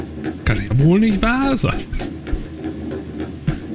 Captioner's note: laughs